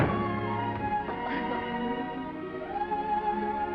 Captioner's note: Esther giggles; gentle music